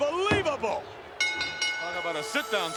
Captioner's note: bell rings